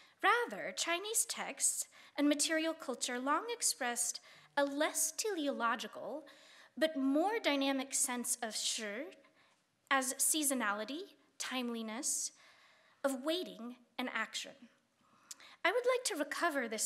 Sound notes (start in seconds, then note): 8.8 speaking Chinese